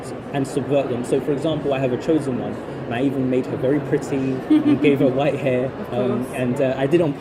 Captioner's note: laughs